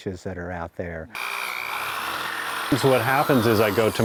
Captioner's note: drill